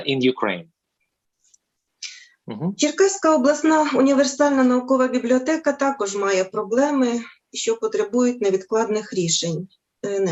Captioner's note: foreign Language